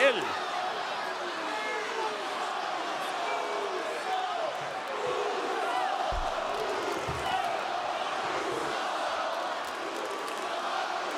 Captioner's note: applause